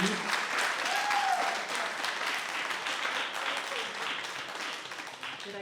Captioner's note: cheering and applauding